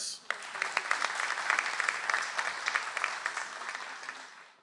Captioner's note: audience applauds